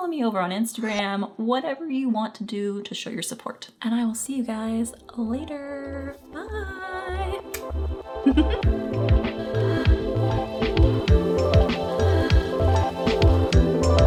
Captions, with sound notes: follow me over on instagram, whatever you want to do to show your support. And I will see you guys, later! Bye! (kiss and laugh) (chill happy music)